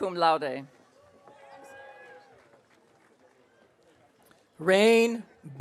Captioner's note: audience cheering